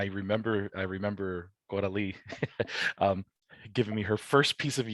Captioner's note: chuckles